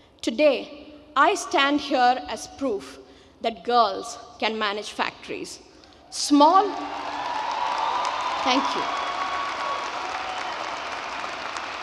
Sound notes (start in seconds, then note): 6.8 audience cheering and clapping